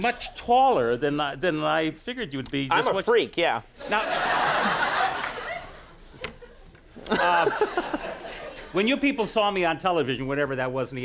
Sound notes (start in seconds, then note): 7.0 audience laughs; 7.0 Conan laughs